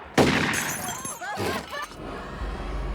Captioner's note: shots firing; glass shattering; clamoring